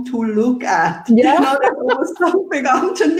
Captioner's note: laughing